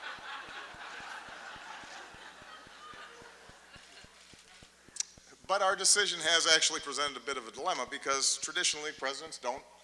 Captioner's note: laughter